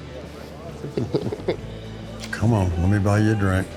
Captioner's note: Angela laughing